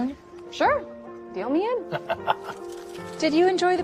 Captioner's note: laughs